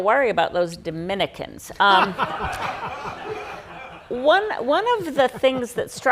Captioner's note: audience laughing